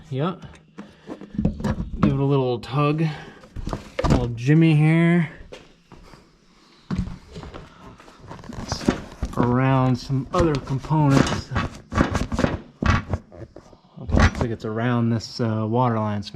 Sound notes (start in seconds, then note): 12.3 objects thudding